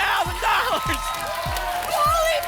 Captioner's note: applause and cheering